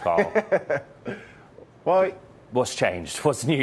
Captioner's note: laughter